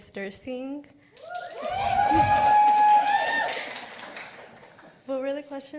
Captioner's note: participants applauding